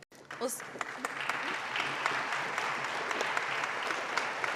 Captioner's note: audience applauding